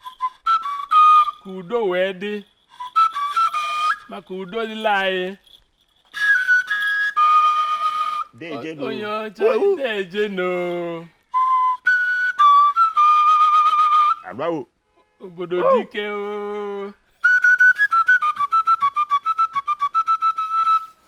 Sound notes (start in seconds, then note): 0.0 flute; 6.1 flute; 11.4 flute; 15.3 exclamation; 17.2 flute